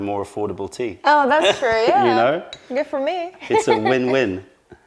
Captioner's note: laughter